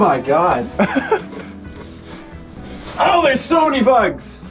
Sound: laughs

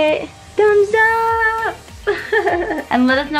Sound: laughing

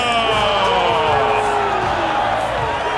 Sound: crowd cheering

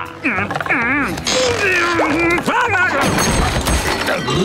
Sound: grunting

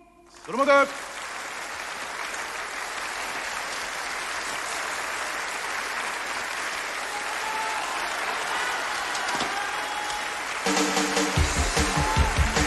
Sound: applause

